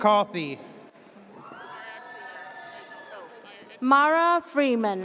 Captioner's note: audience cheers